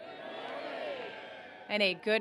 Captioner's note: robust cheer